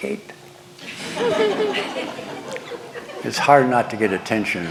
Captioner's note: laughter